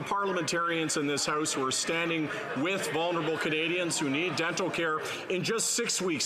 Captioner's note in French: voix de l'interprète